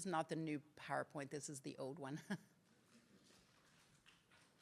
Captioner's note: laughs